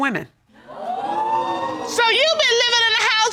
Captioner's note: audience gasps